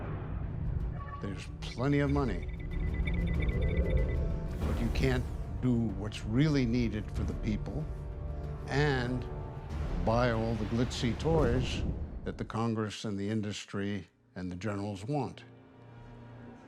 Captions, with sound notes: There's plenty of money. (beeping) But you can't do what's really needed for the people, and buy all the glitzy toys that the Congress and the industry and the generals want.